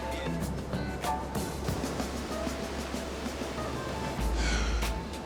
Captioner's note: wind blowing